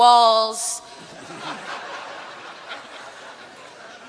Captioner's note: laughter